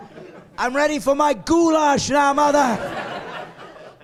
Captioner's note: laughing